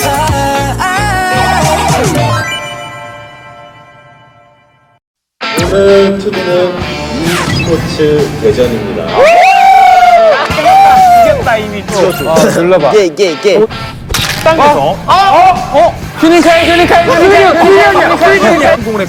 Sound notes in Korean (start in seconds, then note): 9.1 환호